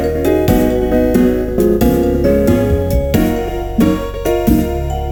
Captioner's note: bump